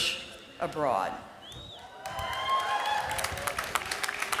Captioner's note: applause